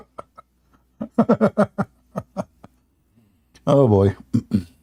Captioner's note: Ketawa